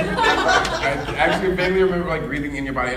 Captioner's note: audience laughing